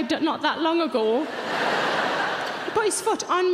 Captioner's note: audience laughs